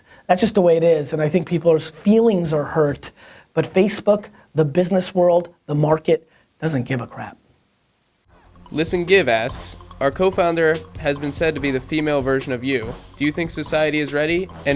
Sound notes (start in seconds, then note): 8.9 voiceover